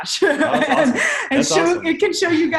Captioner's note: laughs